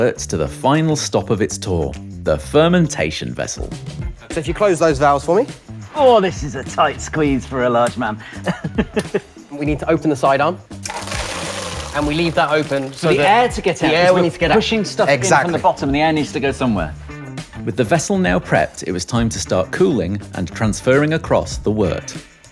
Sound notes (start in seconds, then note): 8.4 chuckles; 10.8 water draining